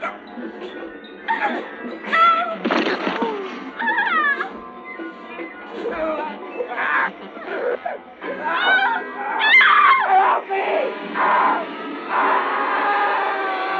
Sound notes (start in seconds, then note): 6.3 screaming; 12.1 crying